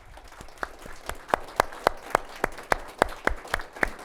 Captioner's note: audience applauds